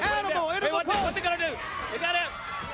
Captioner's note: crowd cheering